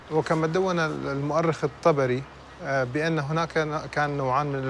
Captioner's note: speaking foreign language